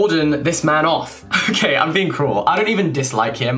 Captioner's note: laughing